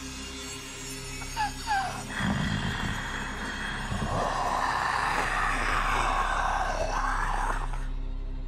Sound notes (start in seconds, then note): 1.4 Martha gasping; 1.8 mummy growling